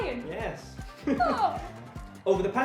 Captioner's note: pretend cry noise